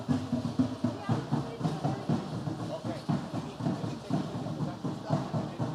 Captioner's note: indistinct background chatter; instrumental music